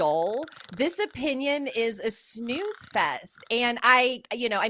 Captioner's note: snoring